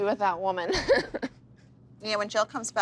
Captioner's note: laughs